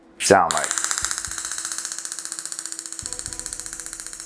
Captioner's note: device clicking